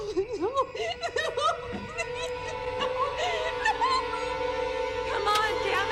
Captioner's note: crying; whimpers